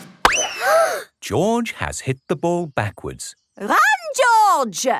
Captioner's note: bang; children gasp